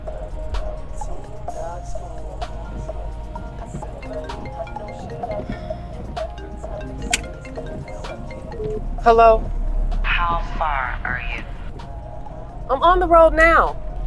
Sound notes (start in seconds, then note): 6.9 phone ringing; 8.7 phone beeps